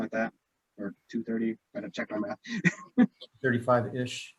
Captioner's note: chuckles